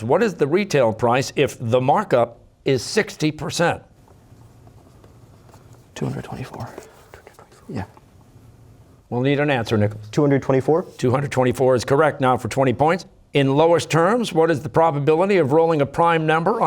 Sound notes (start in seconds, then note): 4.8 pencils scribbling; 6.1 quietly